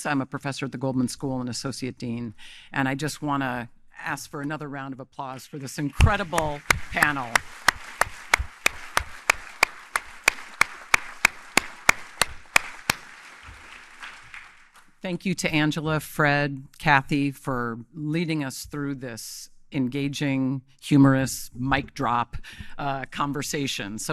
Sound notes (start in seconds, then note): 7.2 audience applauding